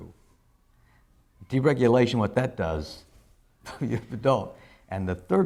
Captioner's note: laughs